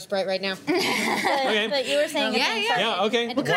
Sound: laughter

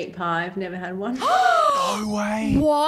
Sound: gasps

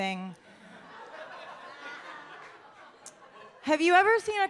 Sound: audience laughs

